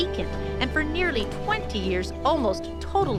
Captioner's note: none